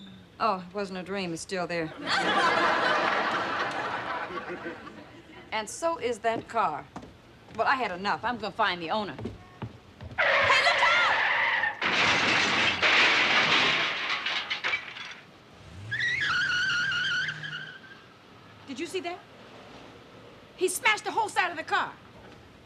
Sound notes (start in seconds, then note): 10.2 tires screeching; 11.6 crashing; 11.8 glass shattering; 15.6 tires squealing